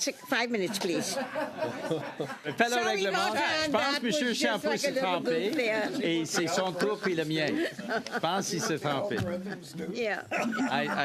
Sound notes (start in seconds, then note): 5.7 laughter